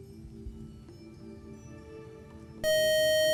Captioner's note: loud buzzer